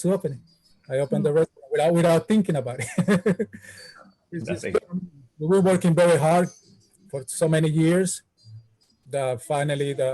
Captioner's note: laughs